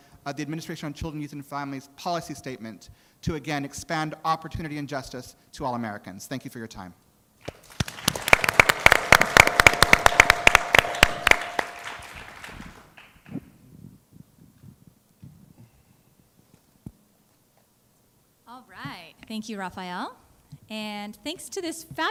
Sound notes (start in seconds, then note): 13.6 applause